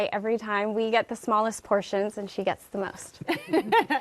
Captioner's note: laughter